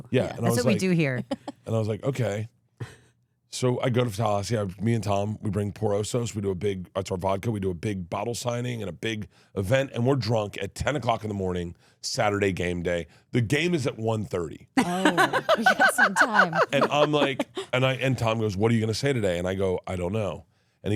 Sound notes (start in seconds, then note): 14.8 laughs